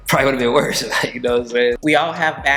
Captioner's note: chuckling